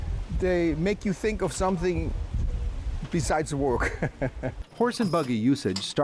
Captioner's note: laughing